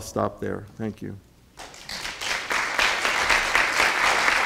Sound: applause

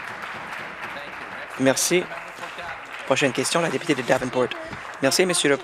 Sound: applause

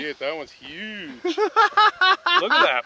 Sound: laughs

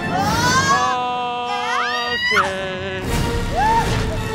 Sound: dramatic music; riders exclaim

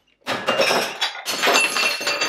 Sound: cup rebounds and shatters

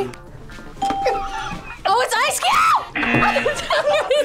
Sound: ding; laughs

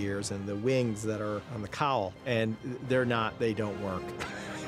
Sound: laughs

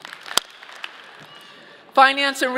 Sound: audience clapping

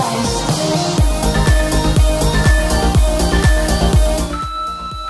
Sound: alarm beeping

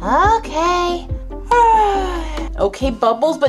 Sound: loud yawning

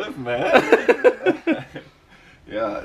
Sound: laughs

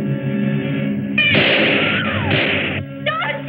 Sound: gunshots

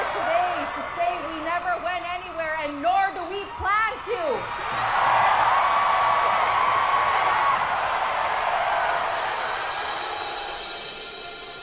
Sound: crowd cheers

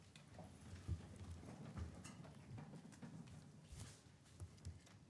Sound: chairs rustling

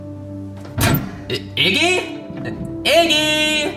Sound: door clicks

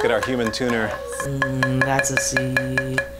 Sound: humming note

